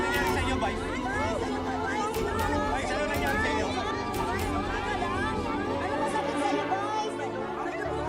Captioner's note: people clamoring